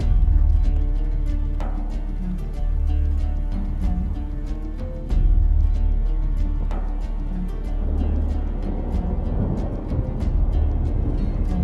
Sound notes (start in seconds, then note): 7.5 thunder rumbling